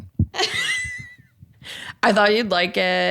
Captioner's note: laughs